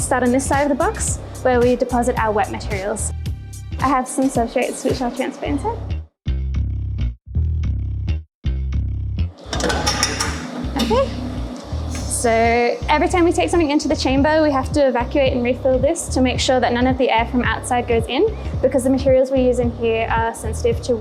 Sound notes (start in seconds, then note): 6.5 upbeat music; 9.5 clinks